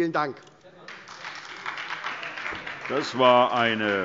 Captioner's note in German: Beifall SPD und vereinzelt AfD